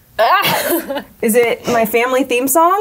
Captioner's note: person laughing